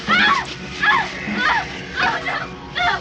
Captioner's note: screaming